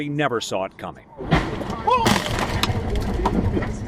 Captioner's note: car crunching; radio announcer speaking lightly